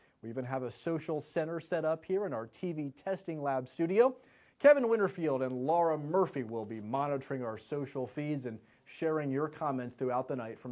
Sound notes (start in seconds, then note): none